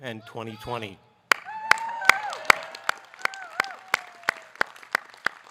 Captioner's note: audience cheering